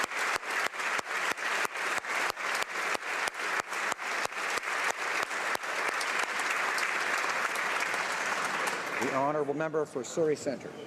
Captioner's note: applause